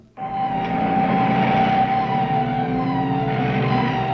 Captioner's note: car engine revving